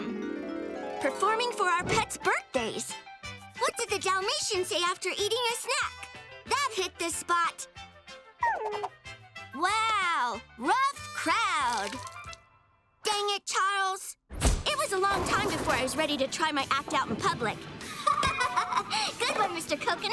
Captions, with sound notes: performing for our pets birthdays. What did the Dalmatian say after eating a snack? That hit the spot. [whimpering] Wow! Rough crowd. Dang it, Charles. It was a long time before I was ready to try my act out in public. [laughing] Good one, Mr. Coconut.